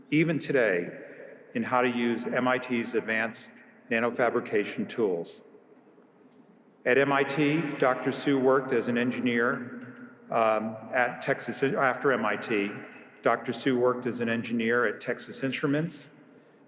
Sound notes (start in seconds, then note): none